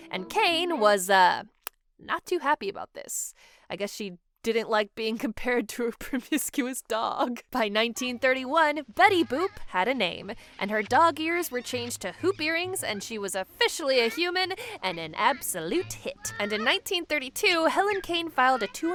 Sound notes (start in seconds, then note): 7.0 laughing